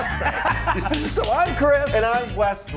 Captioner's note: both laughing